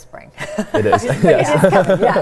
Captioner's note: laughs